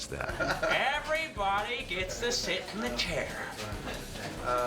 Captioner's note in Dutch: lachend